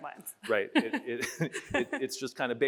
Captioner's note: chuckles